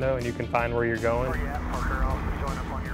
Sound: man Over Radio

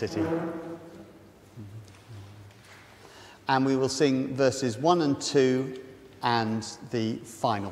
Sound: sound of chairs scraping and rustling

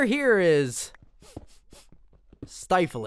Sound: sniffs

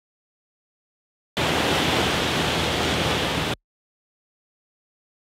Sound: static

